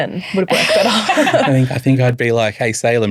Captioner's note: laughing